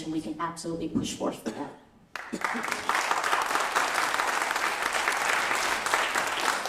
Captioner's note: applause